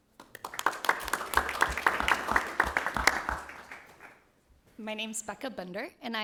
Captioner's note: audience applauding